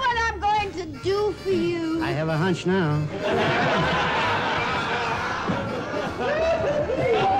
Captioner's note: film crew laughing